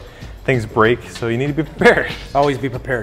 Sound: laughs

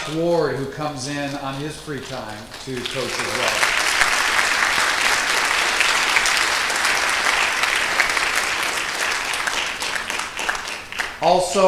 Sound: applause

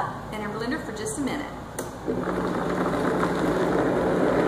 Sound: blender running

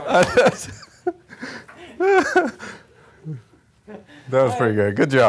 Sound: both laughing

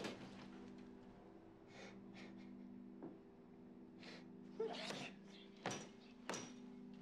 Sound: bed creaking; crying

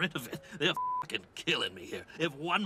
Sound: beep

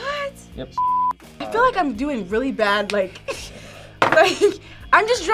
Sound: laughs

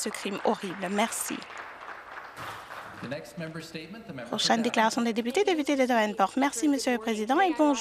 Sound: some Applause

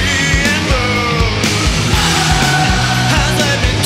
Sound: crowd

